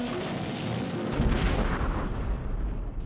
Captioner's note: boom